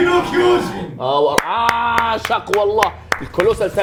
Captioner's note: claps